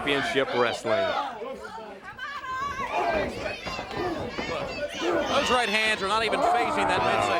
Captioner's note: crowd chatter